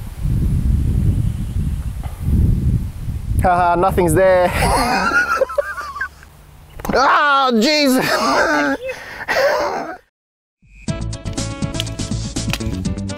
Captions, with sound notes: HAHA, nothing is there! *Obnoxious wheezing laughter* *Emu bites* AHHHHHH! JESUS! *Embarrassed wheezing laughter*